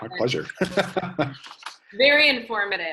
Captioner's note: laughs